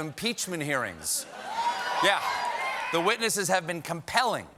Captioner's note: cheers and applause